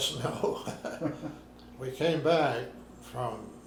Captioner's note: both laughing